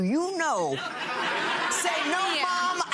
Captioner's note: crowd laughing